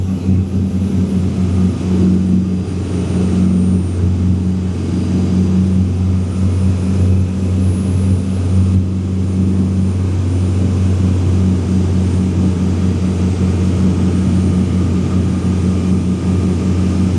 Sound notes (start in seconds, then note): 1.0 engine noise